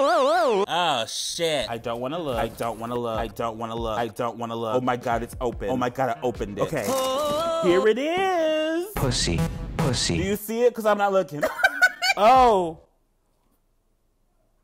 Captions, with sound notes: Oh shit. I don't wanna look. I don't wanna look. I don't wanna look. I don't wanna look. Oh, my god, it's open. Oh, my god, I opened it. Okay. Here it is. (electronic music) - Do you see it? 'Cause I'm not looking. (man laughing) Oh.